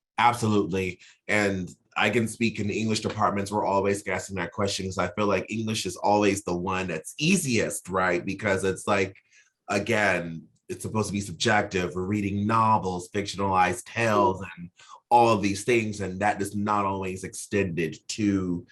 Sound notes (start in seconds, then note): none